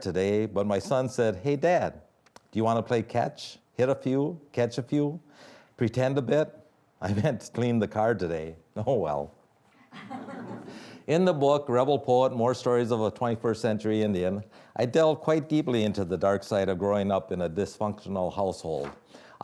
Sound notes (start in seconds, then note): 9.9 audience laughing